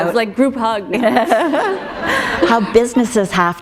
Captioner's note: laughter